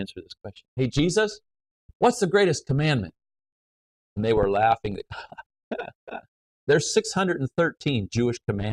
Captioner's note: laughs